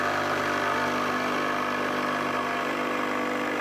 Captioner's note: saw cutting wood